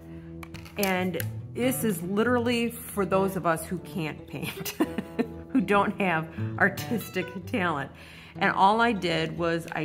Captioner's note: laugh